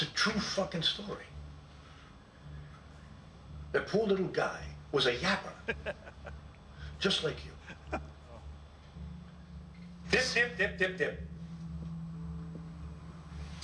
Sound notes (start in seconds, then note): 7.1 laughs